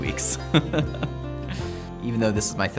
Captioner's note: laughing